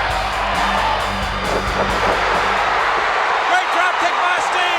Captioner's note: crowd shout